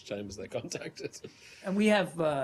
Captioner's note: laughter